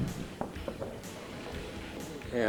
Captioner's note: speaking in foreign language